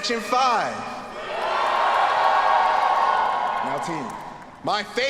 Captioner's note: students cheering